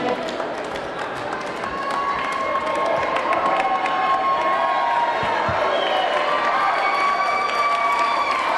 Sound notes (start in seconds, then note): 1.3 audience cheering; 1.6 audience clapping